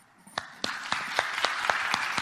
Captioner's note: audience applauding